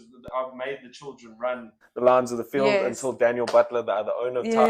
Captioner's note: clap